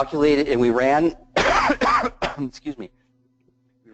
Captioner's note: cough